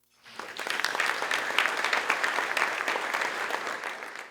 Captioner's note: audience applauding